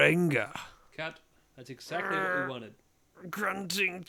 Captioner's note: grunting